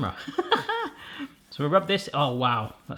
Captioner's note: laughing